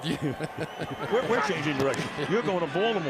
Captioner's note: laughs